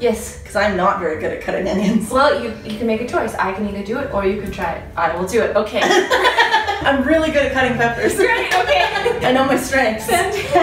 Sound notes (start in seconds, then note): 5.8 laughs